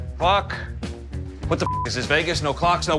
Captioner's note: beep